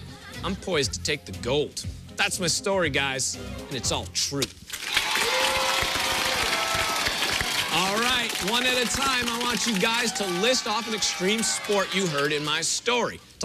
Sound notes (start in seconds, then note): 4.7 cheers and applause